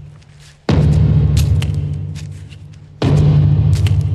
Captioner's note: thuds